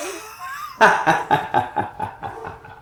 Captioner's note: laughs